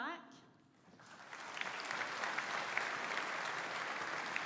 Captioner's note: audience applauding